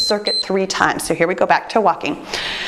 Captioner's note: timer beeps